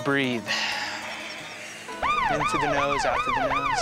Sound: loud exhale; beeping

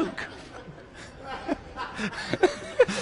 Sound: laughs

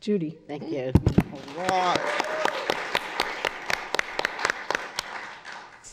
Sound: applause

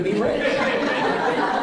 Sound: laughing

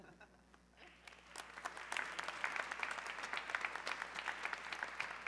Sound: audience clapping

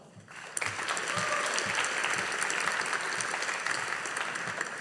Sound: audience applauding

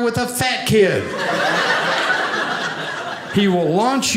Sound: audience laughing

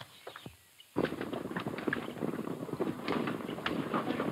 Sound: hooves pattering

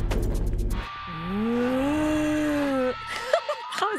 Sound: moaning; giggling

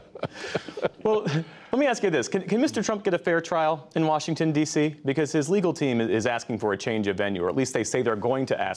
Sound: laughter

